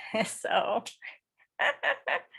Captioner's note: laughs